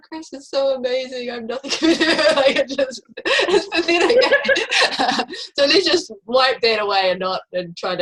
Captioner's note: laughing